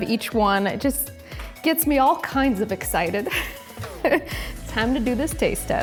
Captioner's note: laughs